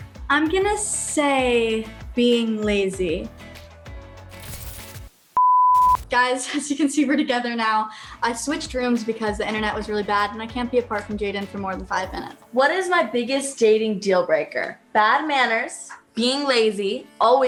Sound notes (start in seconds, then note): 5.3 beep; 5.7 static